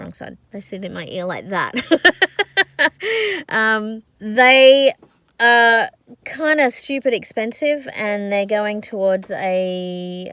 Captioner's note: laughs